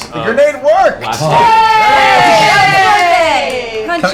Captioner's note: cheering